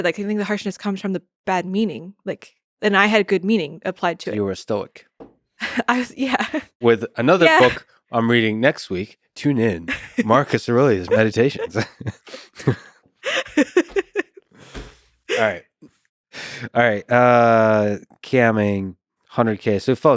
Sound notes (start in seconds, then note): 7.4 chuckles; 9.9 chuckles; 13.2 laughing